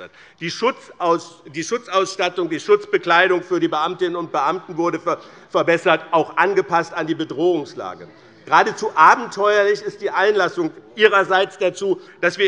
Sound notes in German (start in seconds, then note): none